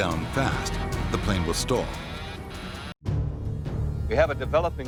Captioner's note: dramatic music; stall alarm buzzing